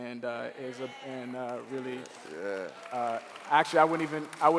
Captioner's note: cheering